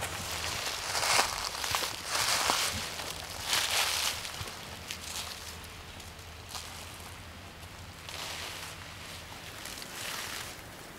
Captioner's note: footsteps, leaves crunching